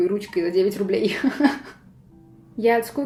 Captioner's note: giggles